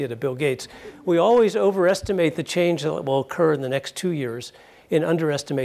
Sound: laugh

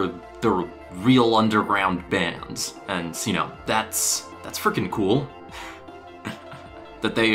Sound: chuckles

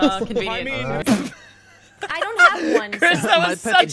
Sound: laughter

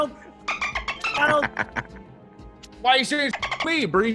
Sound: laugh

